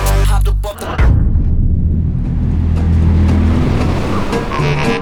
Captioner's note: car engine revving